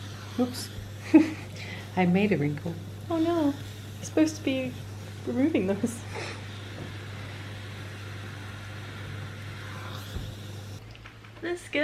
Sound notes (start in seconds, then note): 1.0 laughs; 7.9 scoffs